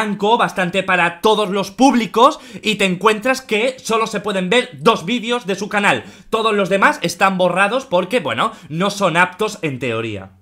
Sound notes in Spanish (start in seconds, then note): none